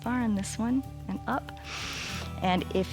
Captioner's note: inhales